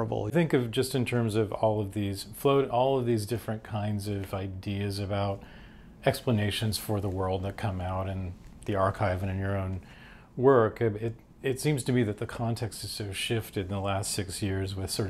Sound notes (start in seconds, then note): none